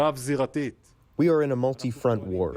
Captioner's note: through translator